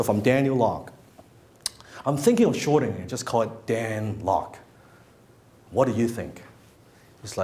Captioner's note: none